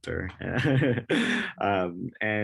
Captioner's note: laugh